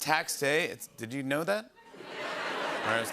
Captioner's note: scattered reaction